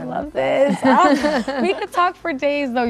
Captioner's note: laughter